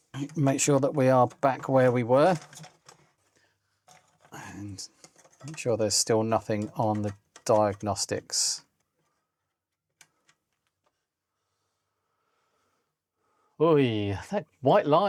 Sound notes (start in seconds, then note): 2.3 silence; 9.8 silence